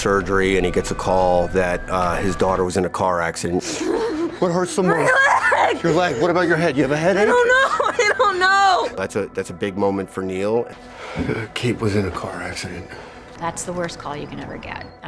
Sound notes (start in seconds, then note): 4.9 Kate groans